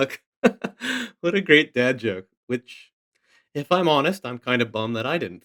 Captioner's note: chuckles